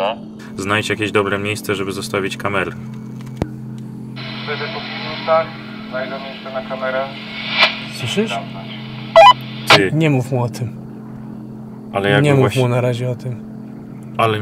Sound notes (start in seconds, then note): 4.2 interference on the radio